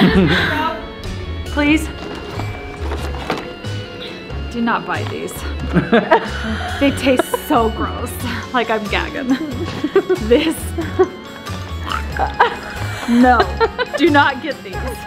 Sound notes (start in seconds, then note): 5.5 laughing; 11.4 dry heaves; 11.8 laughing